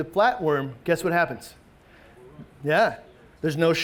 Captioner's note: man speaks faintly